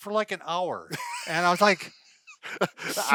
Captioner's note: laughing